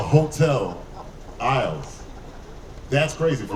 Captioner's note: audience laughing